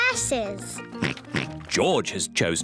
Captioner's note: oinks